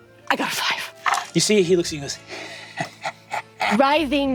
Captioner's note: chuckles lasciviously